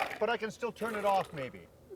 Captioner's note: ice bumping